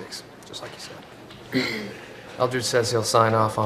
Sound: clearing of throat

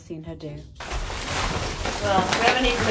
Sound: tree rustling

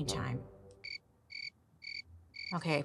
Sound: crickets chirping

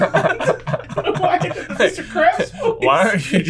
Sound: laughing

